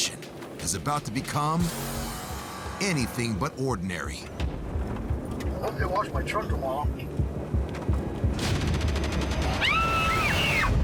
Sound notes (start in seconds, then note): 9.6 screams